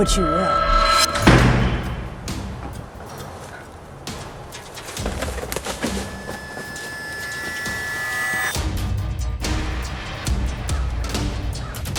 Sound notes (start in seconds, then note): 1.6 loud bang; 5.0 eerie music